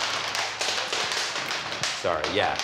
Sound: gumballs clattering

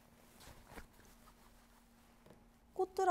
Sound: rubbing

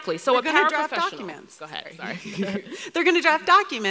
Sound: laughing

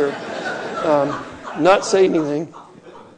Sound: laughing

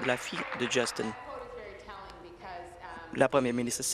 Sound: applause

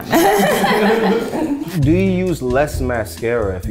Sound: group laughs

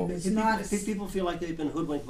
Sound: voiceover

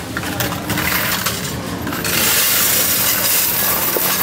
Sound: coins rattling

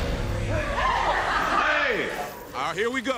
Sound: laughs

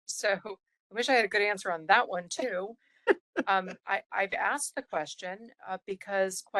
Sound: laughing

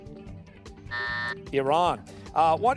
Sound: buzzer

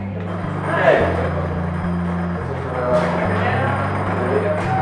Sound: group chattering

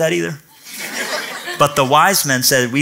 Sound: laughter

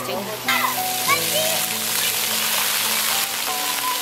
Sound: children chatter

